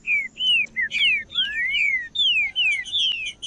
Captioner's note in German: trinca ferro cantando